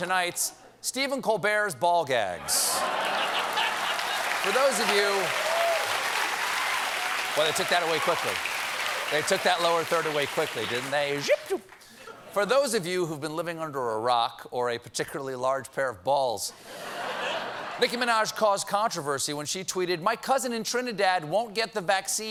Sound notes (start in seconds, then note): 5.2 applause; 5.2 laughter